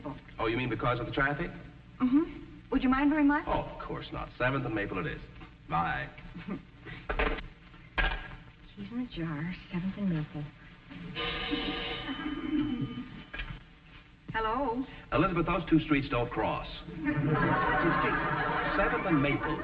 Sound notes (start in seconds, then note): 13.3 audience chuckling; 13.3 telephone ringing; 16.9 audience laughing